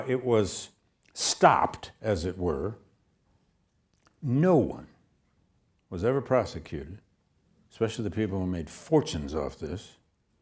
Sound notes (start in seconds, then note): none